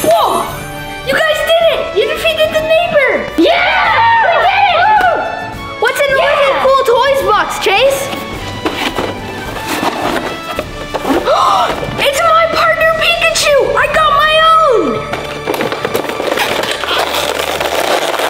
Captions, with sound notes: - Whoa, you guys did it! You defeated the neighbor! - Yeah! - We did it! - What's in the Wicked Cool Toys box, Chase? (shuffling) - It's a My Partner Pikachu, I got my own! (tearing)